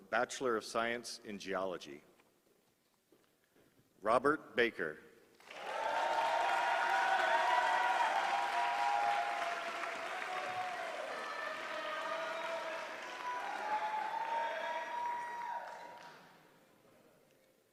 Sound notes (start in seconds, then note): 8.7 applause